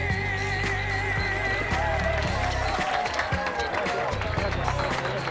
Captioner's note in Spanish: Aplausos